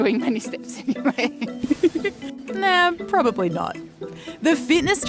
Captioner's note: both laugh